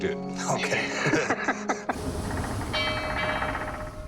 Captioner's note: laughs